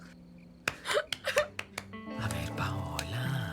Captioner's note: sobbing